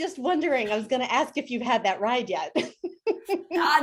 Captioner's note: laughs